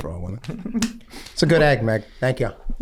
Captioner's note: Glenn laughs